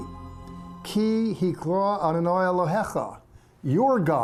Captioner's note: speaking in Hebrew